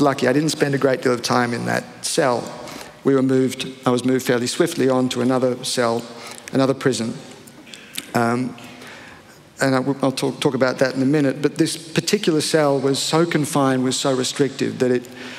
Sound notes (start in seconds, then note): none